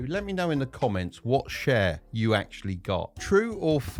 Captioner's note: none